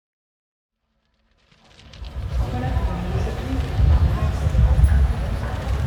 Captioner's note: people bustling about town